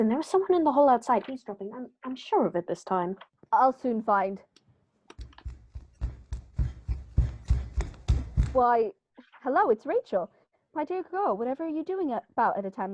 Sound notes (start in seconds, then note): 5.1 quick footsteps